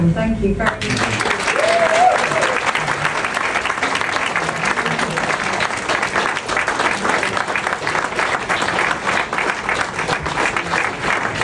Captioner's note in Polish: oklaski